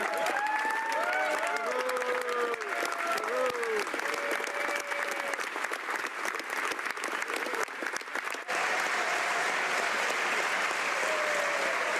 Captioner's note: some Applause